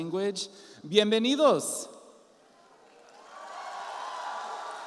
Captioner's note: speaks in Spanish; audience applauds